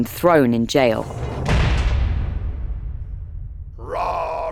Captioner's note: cell door clanging; roaring a hymn